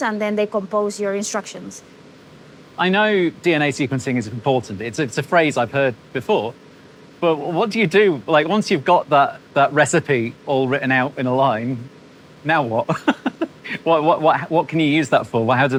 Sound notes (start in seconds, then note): 12.8 laughs